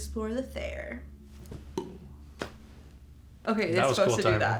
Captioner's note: clicks tongue